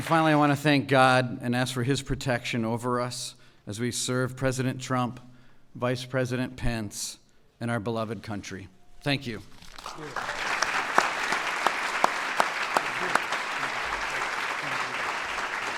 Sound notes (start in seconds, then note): 9.7 applause